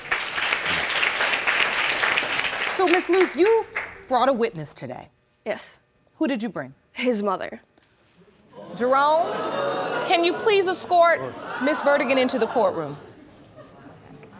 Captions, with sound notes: (AUDIENCE CLAPPING) So, Ms. Loose, you brought a witness today? Who did you bring? Yes. His mother. (AUDIENCE EXCLAIMING) Jerome, can you please escort Ms. Vertigan into the courtroom?